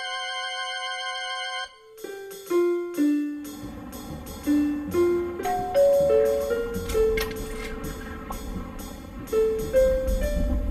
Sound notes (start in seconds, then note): 1.6 digital piano music plays; 5.1 door hatches open; 5.4 doorbell rings